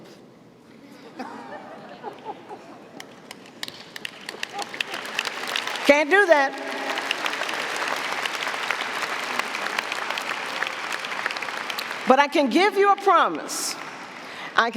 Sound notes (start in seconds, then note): 1.3 audience applauding; 1.3 audience laughing